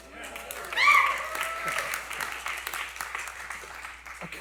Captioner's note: cheering and Applause